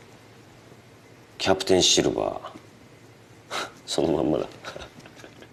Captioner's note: scoffs; laughs